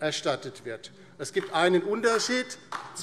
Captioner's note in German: Beifall DIE LINKE